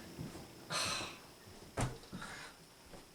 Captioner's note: sighs